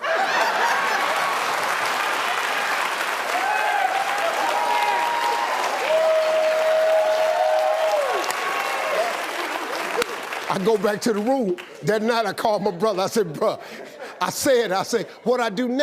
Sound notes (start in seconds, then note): 0.0 audience laughing; 3.2 audience applauding; 3.2 audience cheering